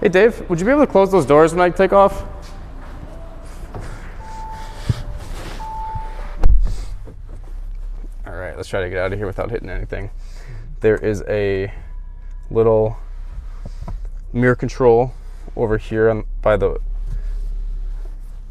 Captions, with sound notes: Hey Dave, would you be able to close those doors when I take off? (chiming) All right, let's try to get out of here without hitting anything. There is a little mirror control over here